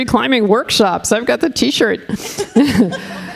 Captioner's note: laughing